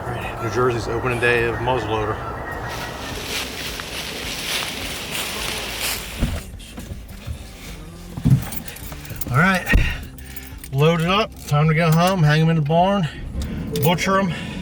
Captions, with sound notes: New Jersey's opening day of Muzzleloader. (leaves crunching) (door opens) All right, loaded up, time to go home, hang in the barn, butcher.